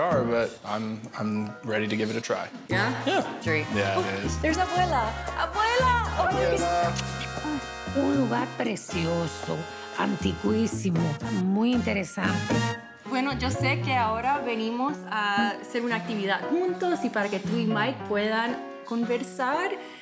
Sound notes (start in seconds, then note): 5.6 speaks Spanish; 13.2 speaks Spanish